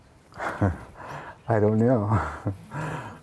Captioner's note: chuckles